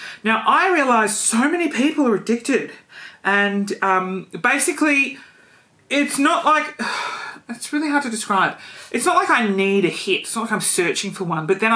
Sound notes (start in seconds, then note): 6.8 sighs